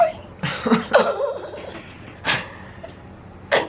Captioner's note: crying and laughing